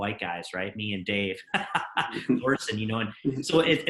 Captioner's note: laughs